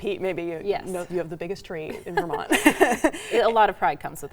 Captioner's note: laughs